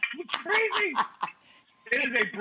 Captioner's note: Rachael laughs